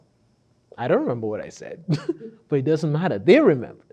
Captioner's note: laughs